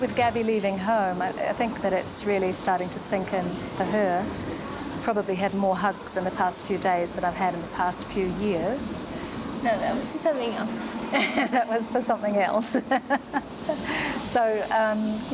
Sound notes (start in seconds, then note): 12.6 laughter